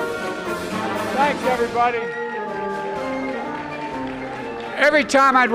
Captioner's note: applause